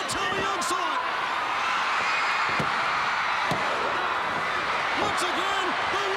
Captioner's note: crowd cheering; countdown thudding